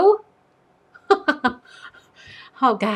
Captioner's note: laughs